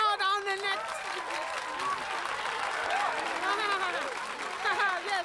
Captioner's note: crowd cheering interrupts